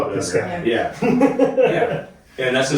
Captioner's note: laughing